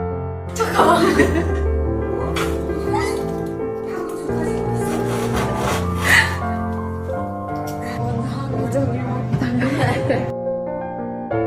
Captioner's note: laugh behind the camera